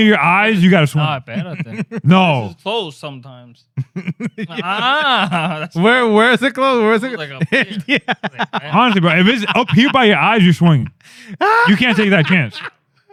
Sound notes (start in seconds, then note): 3.8 laughing; 7.4 laughing